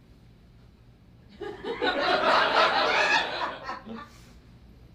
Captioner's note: audience laughs